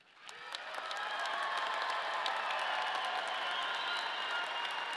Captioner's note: audience cheering